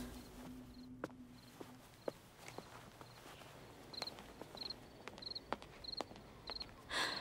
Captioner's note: Footsteps